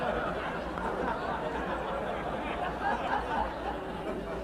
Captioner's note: audience laughing